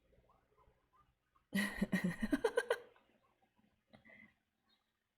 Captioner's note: laughs